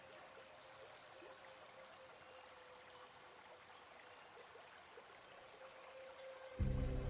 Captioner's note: soft tense orchestral music; water running